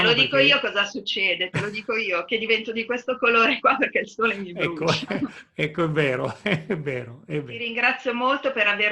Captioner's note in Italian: Risate